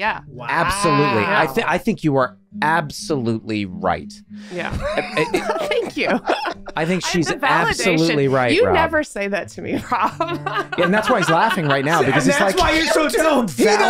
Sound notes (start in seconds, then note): 6.3 Rob laughing; 10.6 laughs